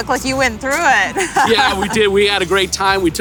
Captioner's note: laughs